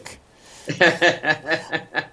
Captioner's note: laughter